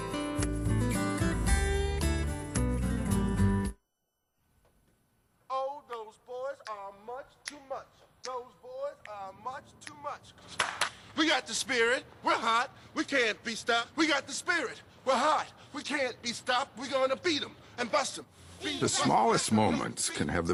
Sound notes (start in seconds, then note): 7.4 snapping fingers; 10.6 clap, clap